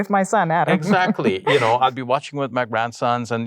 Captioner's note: chuckles